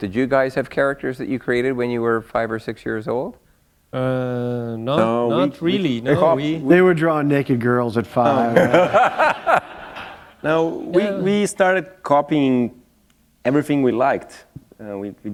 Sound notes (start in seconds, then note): 8.3 laughter